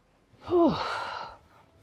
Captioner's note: sighs